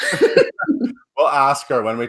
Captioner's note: laughs